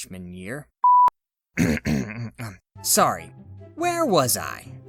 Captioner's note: clears throat